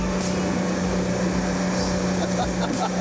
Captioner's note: laughing